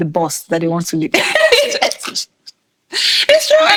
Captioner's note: laughing